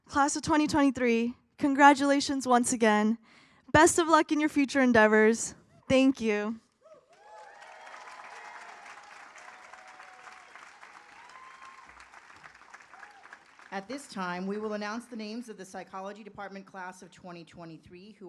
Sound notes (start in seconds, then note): 7.0 audience applauds